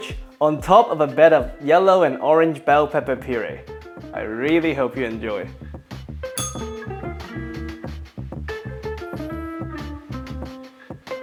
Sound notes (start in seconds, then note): 6.4 bell rings